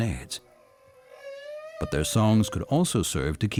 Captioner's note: whale singing